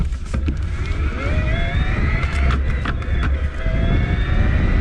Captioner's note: motor humming